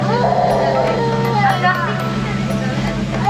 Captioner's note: baby crying; upbeat music